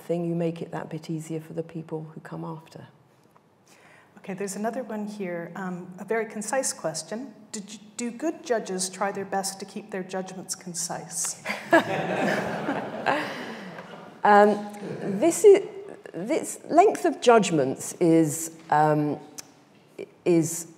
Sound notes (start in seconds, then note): 11.5 audience laughing